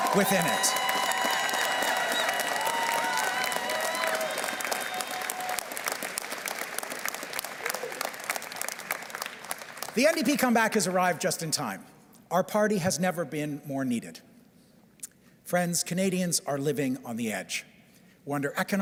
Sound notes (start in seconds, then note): 4.2 cheers and Applause